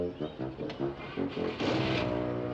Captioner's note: revving engine